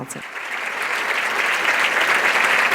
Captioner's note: applause